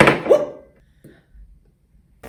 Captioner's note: banging noise